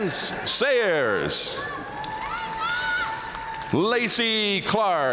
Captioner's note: audience cheering and applauding